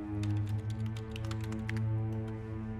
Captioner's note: keyboard clacking